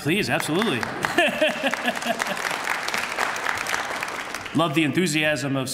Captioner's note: applause